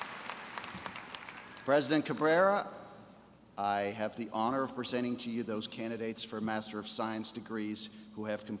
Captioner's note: applause